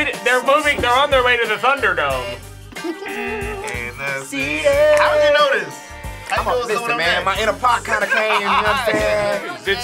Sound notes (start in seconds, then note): 2.7 chuckles; 3.7 buzzer buzzing